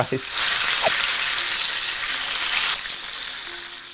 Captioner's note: meat sizzling